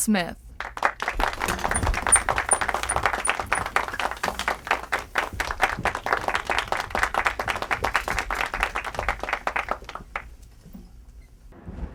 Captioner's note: audience applause